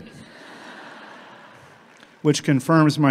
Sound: everyone laughs

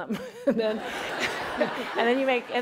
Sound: laughter

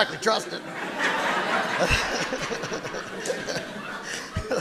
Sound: audience laughing

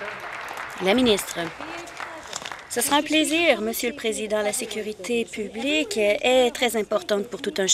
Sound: applause

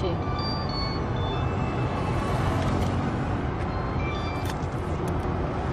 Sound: mobile ringing

